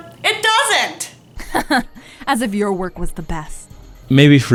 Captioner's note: laughs